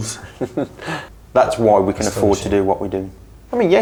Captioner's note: chuckles